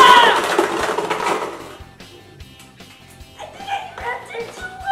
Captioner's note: metal and plastic clanking